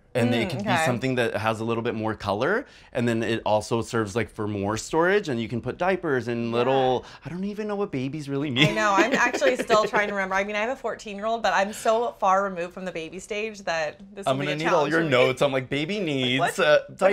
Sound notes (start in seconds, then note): 8.5 laughs